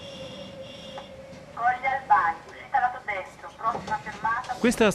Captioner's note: automated announcments